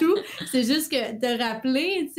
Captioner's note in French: Rires